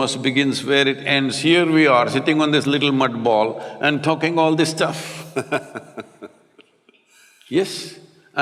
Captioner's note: Matthew Laughs